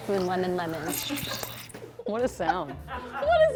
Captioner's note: squishing sound